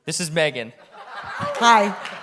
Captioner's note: audience laughing